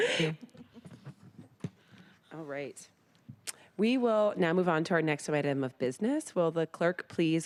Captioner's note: laughter